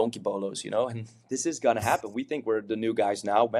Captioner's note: chuckles